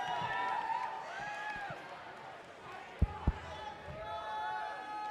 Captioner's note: crowd shouts and cheers indistinctly